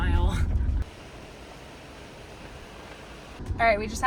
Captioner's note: river whooshing